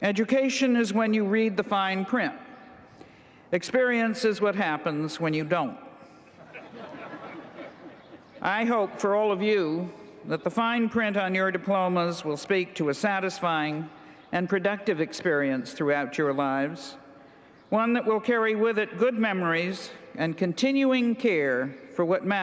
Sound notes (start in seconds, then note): 6.2 laughter